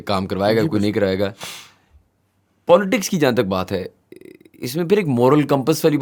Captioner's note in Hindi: नाक से की जाने वाली आवाज़